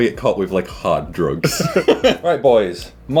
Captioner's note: laughing